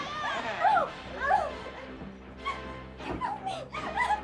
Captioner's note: mother clamoring